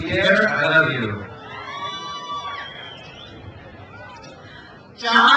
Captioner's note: crowd cheers